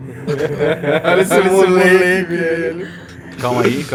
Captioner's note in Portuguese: Risada